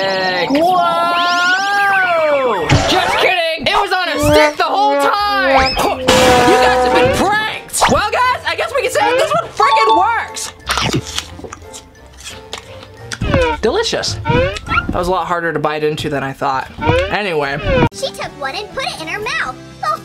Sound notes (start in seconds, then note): 6.0 loud crash; 10.3 chews loudly